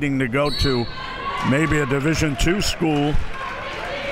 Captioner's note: whistle blows